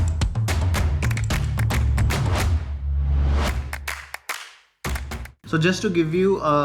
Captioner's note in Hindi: तालियां